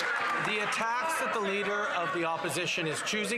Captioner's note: some Applause